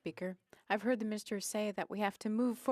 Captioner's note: speaking French